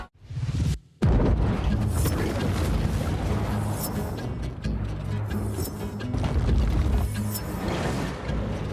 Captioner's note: explosion